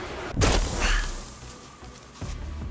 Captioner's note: glass shattering